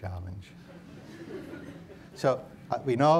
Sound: audience laughs

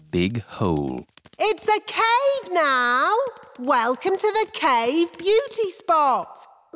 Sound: echoing

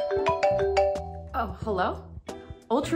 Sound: doorbell ringing; phone ringing

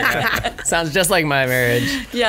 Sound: laughs

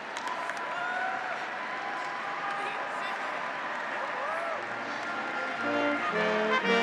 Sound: graduates applauding; graduates cheering; royal instrumental music

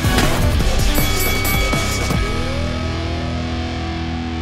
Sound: bell chimes

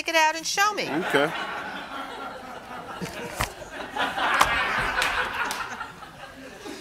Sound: audience laughs

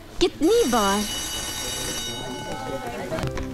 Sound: school bell rings

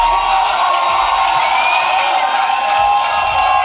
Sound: cheering

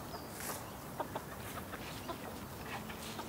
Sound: quiet cackling, birds chirping

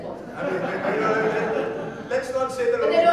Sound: audience laughing

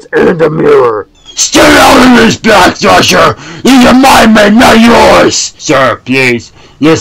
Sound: earrape

